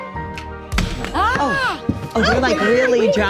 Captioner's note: papers thud; laughs